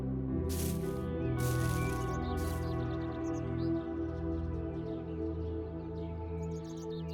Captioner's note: leaves rustling; birds chirping